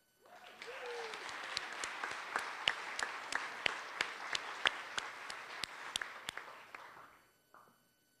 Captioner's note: applause